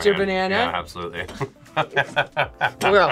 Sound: both laugh

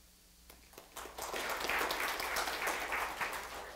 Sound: applause

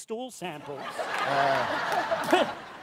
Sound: laughter

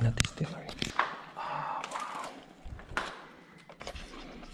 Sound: whispering

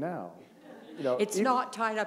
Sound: chuckle

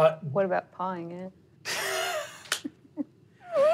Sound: laughs

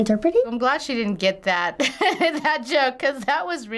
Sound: laughs

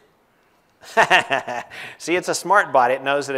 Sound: laugh

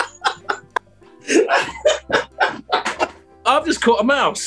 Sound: laughing

